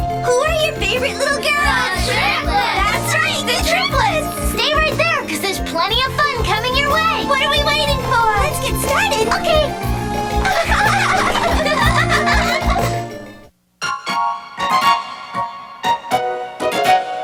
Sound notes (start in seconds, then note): 10.3 triplets giggling; 13.8 playful music